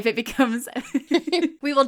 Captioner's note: laughing